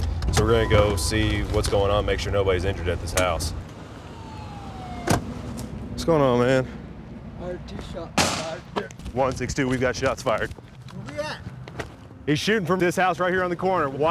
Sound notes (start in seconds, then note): 3.6 police siren; 8.2 gunshots